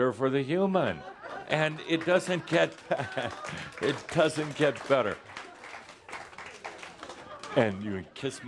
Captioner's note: some chuckles; some applause